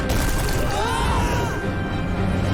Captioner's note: screaming